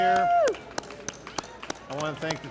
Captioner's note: clapping and cheering